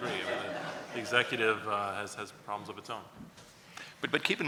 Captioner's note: laughs